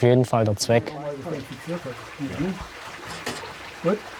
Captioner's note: soft voices, splashing water